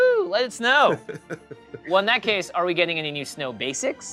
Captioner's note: laughing